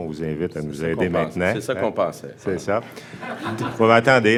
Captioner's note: laughs